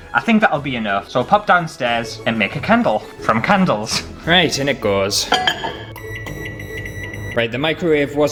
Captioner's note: beep